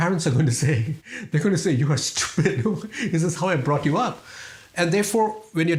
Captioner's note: laugh